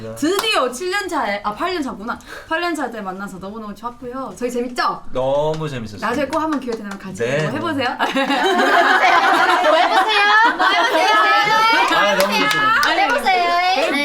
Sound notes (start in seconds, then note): 8.0 laughing